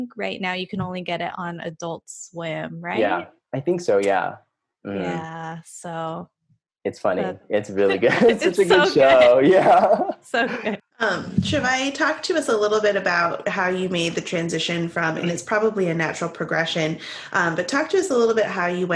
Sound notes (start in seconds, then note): 7.8 laughing